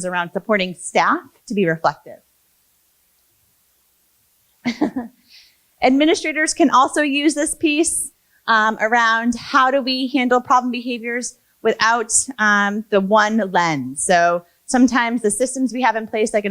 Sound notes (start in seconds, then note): 4.6 laughs